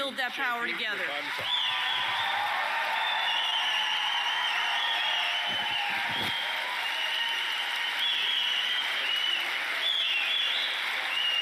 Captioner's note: applause and cheering